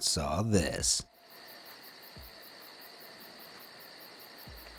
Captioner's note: crickets chirping